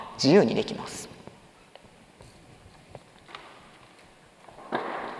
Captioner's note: silence